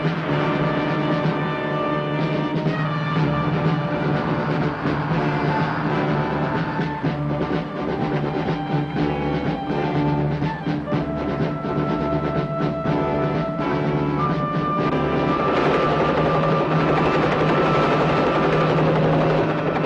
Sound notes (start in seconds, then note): 5.4 truck engine whirring; 7.6 dramatic music; 16.5 helicopter roaring